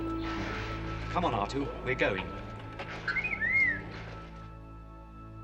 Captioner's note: beeping